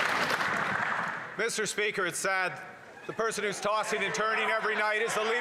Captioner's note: some Applause